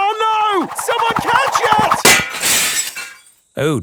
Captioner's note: shatters